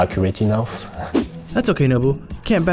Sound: voiceover

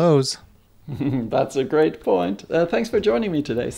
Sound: laughs

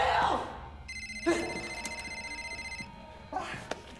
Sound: phone ringing

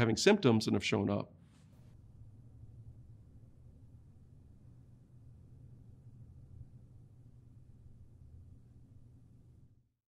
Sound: silence

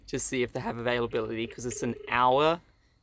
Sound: phone ringing

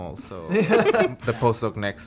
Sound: laughing

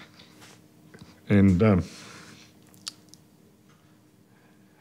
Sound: voice cracks

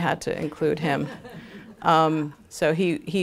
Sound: laughter

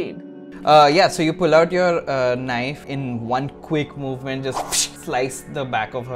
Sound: swish

